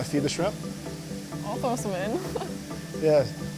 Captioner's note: laughs